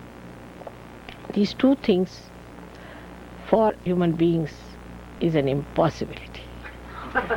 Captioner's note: laughter